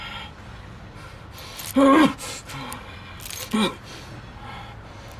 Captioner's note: Bao grunts